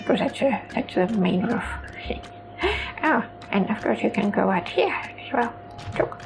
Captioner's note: giggles